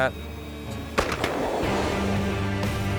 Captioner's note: gun shot